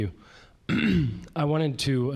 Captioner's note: clearing throat